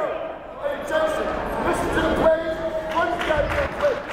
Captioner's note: yelling